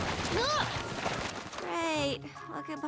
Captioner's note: rustling